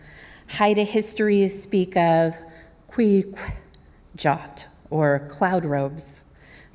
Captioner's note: speaking native language